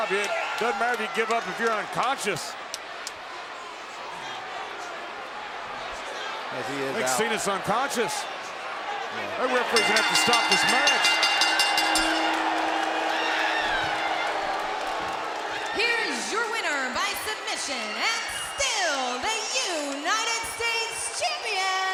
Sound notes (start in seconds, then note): 9.5 bell rings